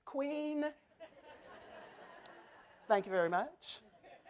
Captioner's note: laughter